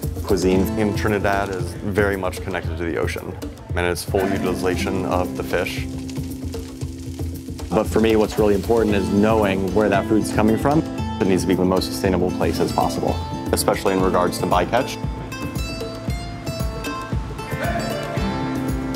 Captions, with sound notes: Cuisine in Trinidad is very much connected to the ocean, and it's full utilization of the fish. (sizzling) But for me what's really important is knowing where that food's coming from. It needs to be the most sustainable places possible, especially in regards to bycatch. (percussive music)